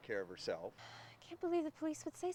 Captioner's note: sighs